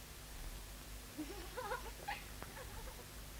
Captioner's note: laughing